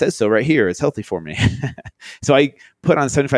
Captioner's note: laughs